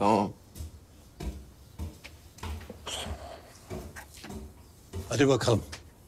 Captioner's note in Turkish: Ayak Sesi